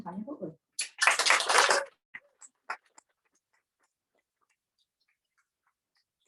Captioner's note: applause